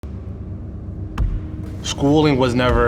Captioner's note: ball bouncing